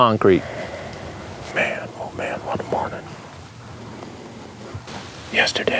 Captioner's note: whispering